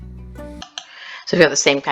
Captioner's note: click